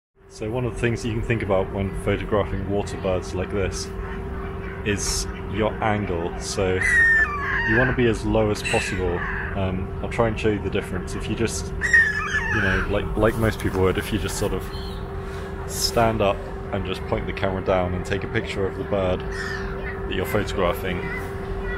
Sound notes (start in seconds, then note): 5.7 loud gull calls several times